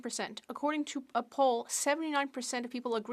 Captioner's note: speaking French